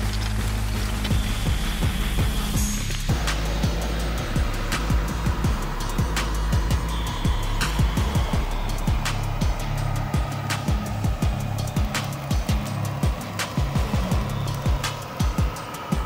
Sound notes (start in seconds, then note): 0.3 charcoal thumping; 3.5 torch hissing